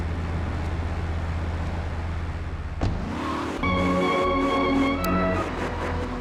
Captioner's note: engine roaring; tires screeching; engine roaring